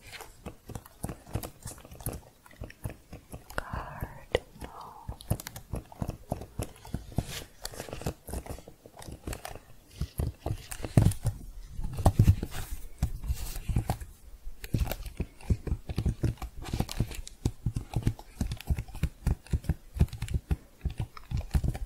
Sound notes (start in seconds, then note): 0.1 typing sounds; 5.6 typing and pressing keys